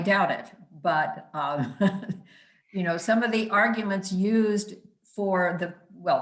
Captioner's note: laughing